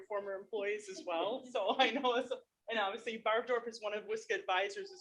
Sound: chuckles

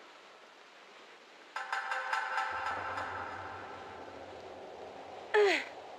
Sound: metalic noises; groan

